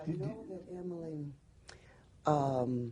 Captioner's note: laughing